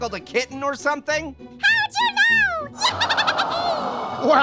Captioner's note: Marshmallow cheers